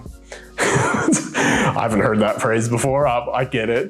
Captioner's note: chuckles